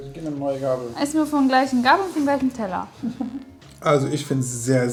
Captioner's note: laughing